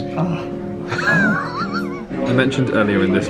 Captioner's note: chuckles